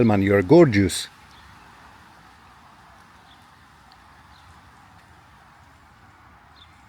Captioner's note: Birds Chirping